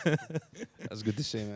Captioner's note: laughing